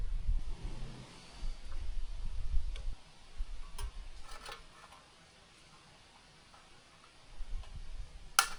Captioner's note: metal clanking